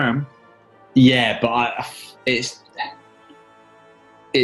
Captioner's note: sighs